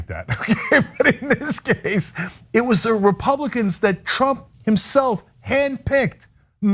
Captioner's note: laugh